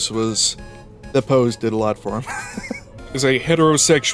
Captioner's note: wheeze